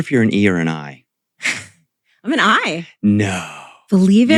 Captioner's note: laughs